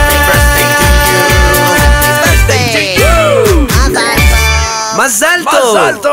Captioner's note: hebrew